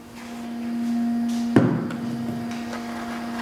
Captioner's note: distant whirring